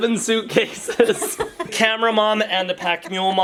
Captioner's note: both laughing